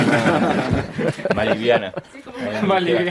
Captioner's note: laughts